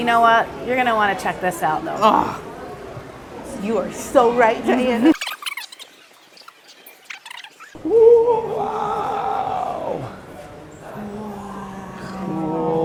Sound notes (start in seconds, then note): 5.1 tape squeaks as it fast forwards